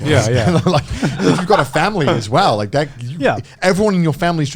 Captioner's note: laughs